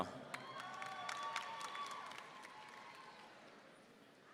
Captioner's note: audience cheering